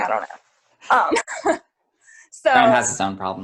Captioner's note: laughs